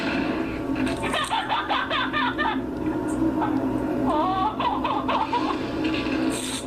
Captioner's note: laughs